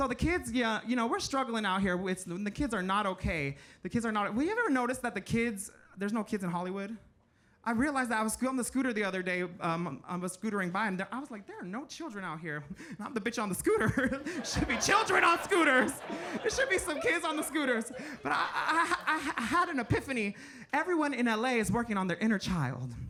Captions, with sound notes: So the kids, yeah, you know, we're struggling out here with, and the kids are not okay. The kids are not... Well, you ever notice that the kids, there's no kids in Hollywood? I realized that, I was on the scooter the other day, I was scootering by, and I was like, "There are no children out here." And I'm the bitch on the scooter. (chuckling) (audience laughing) Should be children on scooters. There should be some kids on the scooters. But I had an epiphany. Everyone in LA is working on their inner child.